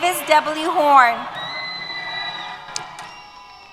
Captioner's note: cheers